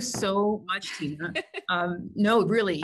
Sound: laughing

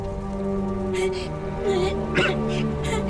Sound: kid sobbing; Gordon coughing

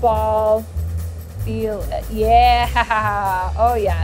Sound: chuckling

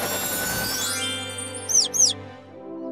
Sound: chirping

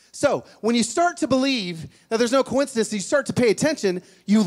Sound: none

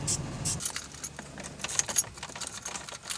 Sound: blowers blow

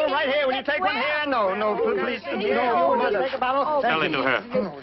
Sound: shouting

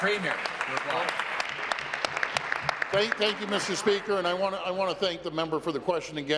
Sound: applause

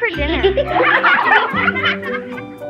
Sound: kids laughing

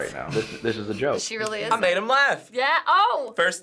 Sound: chuckles

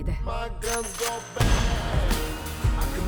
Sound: gun cocks

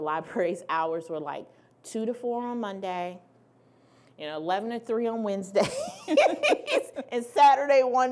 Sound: laughing

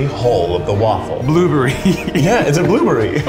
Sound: laughs

